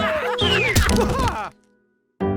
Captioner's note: cheering; stretcher crashes